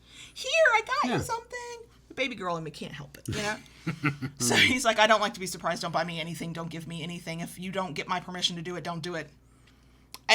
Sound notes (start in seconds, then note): 3.3 chuckles